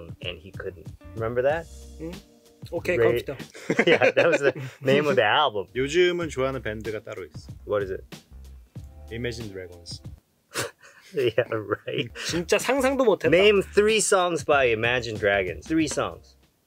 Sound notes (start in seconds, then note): 3.4 laughs; 5.8 speaking in Korean; 10.5 laughs; 12.7 speaking in Korean